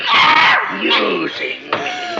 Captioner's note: screaming